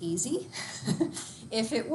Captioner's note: giggles